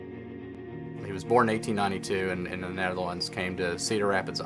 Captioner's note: voiceover